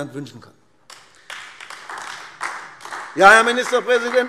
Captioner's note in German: Beifall AfD